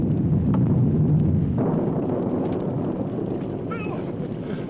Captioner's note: thunder rumbling